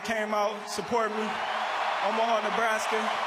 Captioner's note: crowd cheers